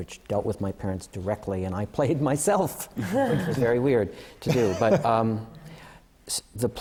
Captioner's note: laughter